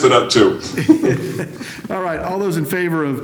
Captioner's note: laughter